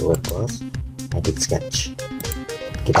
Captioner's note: click